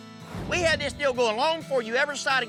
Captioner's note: angrily shouting